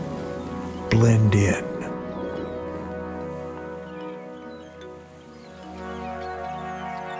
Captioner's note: soft music; seagulls squawking